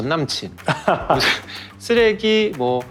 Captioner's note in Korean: 웃음